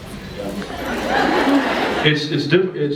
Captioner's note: scattered laughs